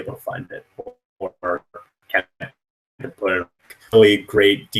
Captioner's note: static